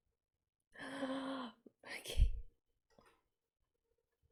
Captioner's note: delighted gasp